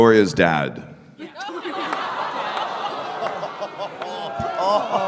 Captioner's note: audience: groans, "ooh", "oh", "aw"